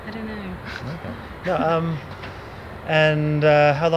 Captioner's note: chuckling